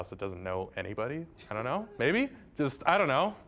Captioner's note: audience chuckling